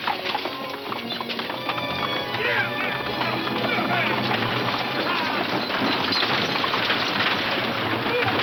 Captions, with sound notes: - Giddy up now, yeehaw! (wagons clattering)